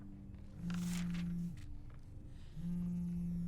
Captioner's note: phone vibrating